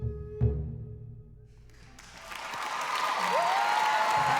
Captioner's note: applause, cheering